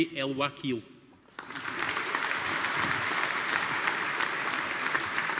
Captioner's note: audience applauding